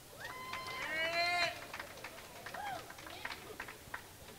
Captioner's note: crowd cheering